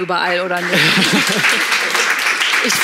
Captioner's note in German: Applaus